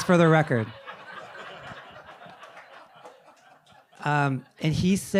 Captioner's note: audience laughing